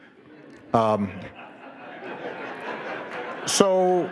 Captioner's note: audience laughing